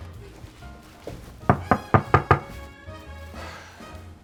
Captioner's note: knocking at door